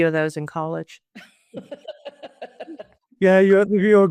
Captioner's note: laughs